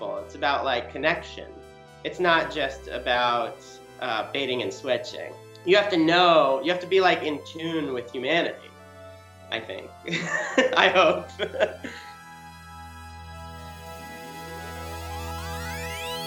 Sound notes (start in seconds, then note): 10.1 laughs; 12.7 bright music